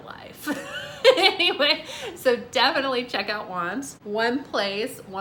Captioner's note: laughs